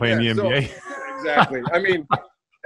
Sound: laughs

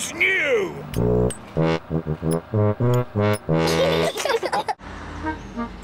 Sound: giggles

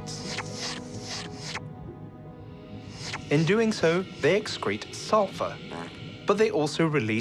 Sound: sucking/slurping sound

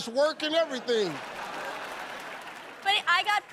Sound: laughter

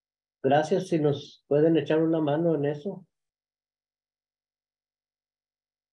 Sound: continues speaking in Spanish

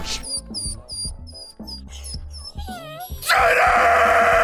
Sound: whining

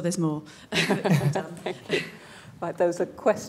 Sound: laughter

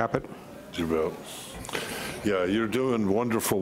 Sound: murmurs

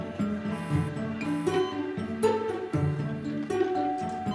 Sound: pager beeping

